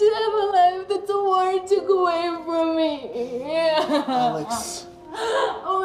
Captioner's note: sobbing